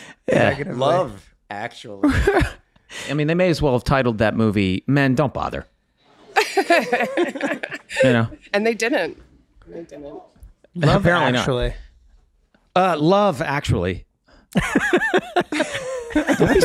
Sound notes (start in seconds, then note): 6.3 laughing; 14.6 everyone laughing